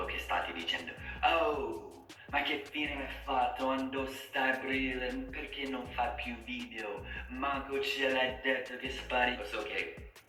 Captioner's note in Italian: speaking in a stereotypical Roman accent